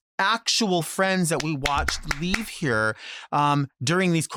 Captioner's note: clapping